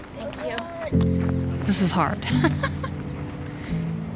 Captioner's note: laughs